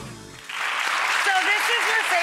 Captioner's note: applauding